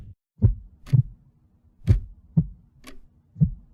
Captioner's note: heartbeat